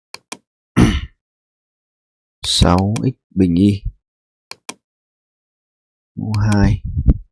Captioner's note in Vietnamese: hắng giọng